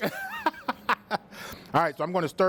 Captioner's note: laughs